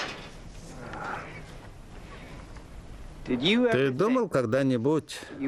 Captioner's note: sighs